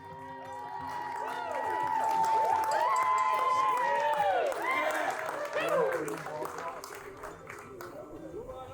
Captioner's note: cheering and applause